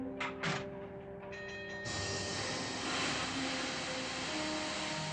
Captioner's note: bell dinging, steam blowing